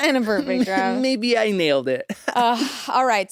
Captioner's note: laughs